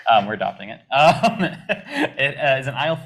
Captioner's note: laughs